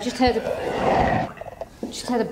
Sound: guttural breath and growl

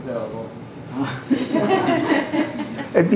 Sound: laughter

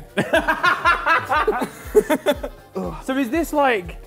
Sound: laughs

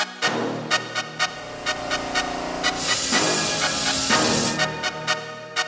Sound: machine sound

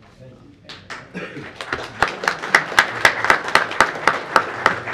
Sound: room applauding

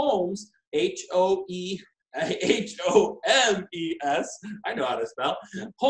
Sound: laughing

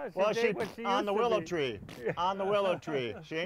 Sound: blowing raspberries

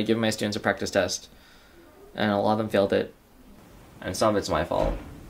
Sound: none

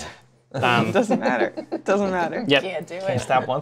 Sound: laughter

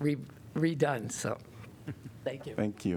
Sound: laughter

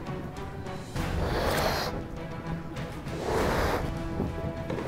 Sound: blowing up the balloon so hard

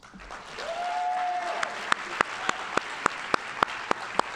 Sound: audience applauding

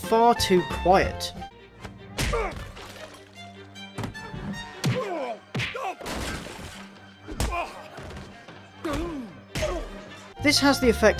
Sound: punches and grunts

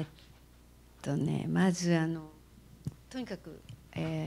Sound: non-english speech

